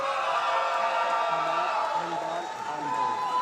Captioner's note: loud cheering